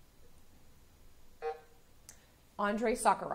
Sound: buzzer sounding

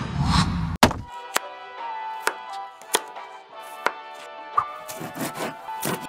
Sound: knife chopping; knife slicing

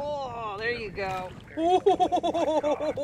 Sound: chuckling

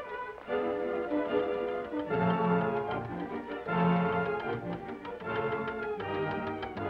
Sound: dramatic music; timer ticking

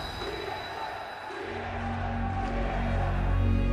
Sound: crowd

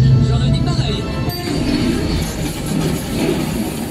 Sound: doors ding

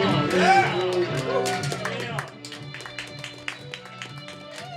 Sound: everyone applauds

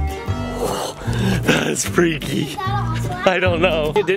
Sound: gasps

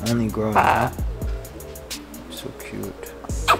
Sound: bird squawk drowns out speaker

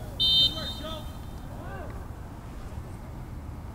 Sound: whistle blows

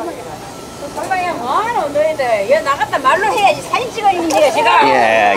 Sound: woman speaking in foreign language

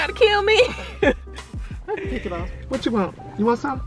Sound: laughing

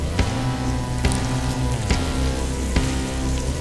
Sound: flesh squelching

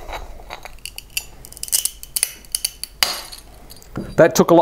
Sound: crackling and loud snapping

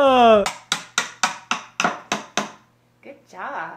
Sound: child hammering

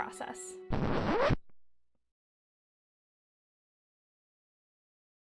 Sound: record Scratch

